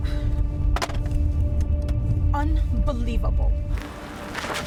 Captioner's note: metal clanking